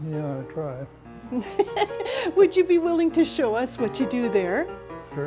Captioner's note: laughs